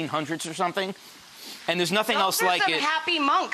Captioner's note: sniffs